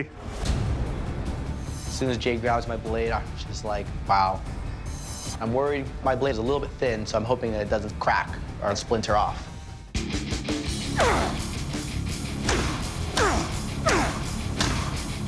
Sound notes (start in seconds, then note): 0.1 dramatic music playing; 10.7 grunting; 12.5 dramatic rock music playing